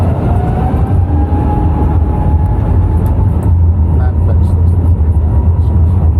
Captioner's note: aeroplane engine roaring increasing